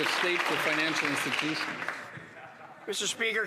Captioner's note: some Applause